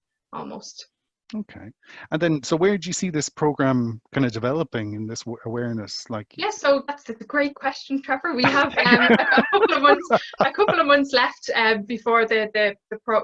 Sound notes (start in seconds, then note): 5.4 laughter